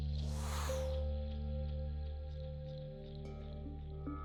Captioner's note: graphic whooshing